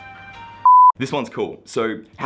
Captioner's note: beep